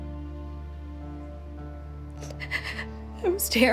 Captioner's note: breathes shakily